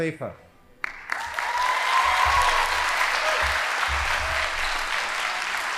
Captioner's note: audience applauding